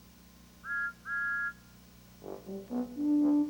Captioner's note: toots